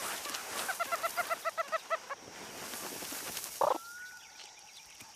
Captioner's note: pup squeaks